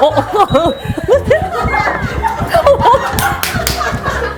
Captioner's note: heart pounding